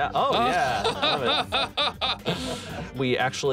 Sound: laughs

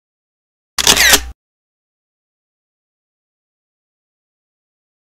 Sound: camera shutters

